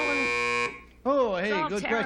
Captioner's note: buzzer